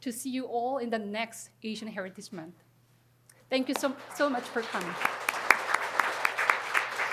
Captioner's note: applause